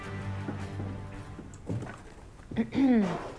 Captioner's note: clears throat